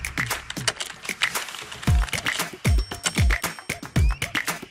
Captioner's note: upbeat music; keyboard typing